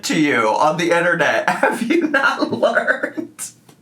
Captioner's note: laughs